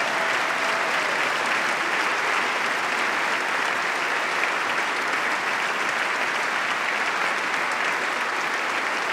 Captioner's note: applause